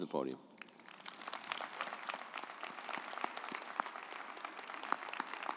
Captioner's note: audience applauding